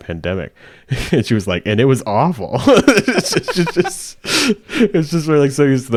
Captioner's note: laughs